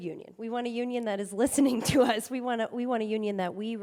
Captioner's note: chuckles